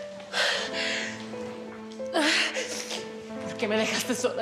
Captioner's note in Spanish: sollozos